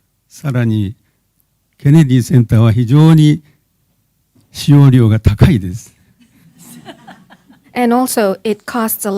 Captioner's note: speaking japanese